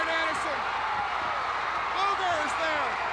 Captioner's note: crowd cheering